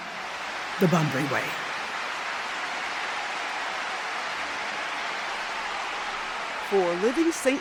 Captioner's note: audience claps; opera music